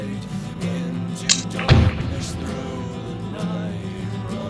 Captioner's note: knife closing